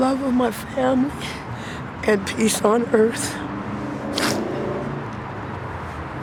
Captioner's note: sniffles